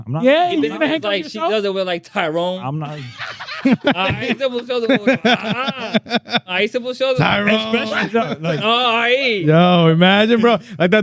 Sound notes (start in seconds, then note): 3.2 laughing; 3.2 speaking In Foreign Language